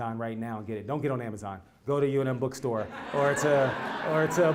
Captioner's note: laugh